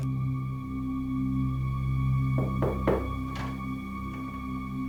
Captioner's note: knocking on door